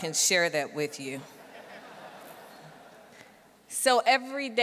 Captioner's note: audience laughing